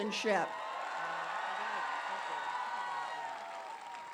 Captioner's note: applause